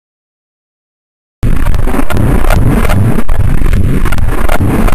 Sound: zapping

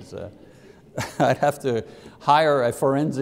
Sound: laughs

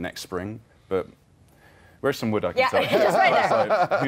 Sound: laughter

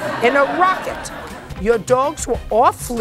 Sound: laughter

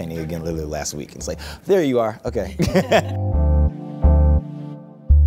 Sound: laughs

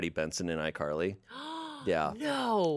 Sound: gasps

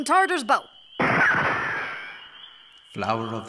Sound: shot-gun sound

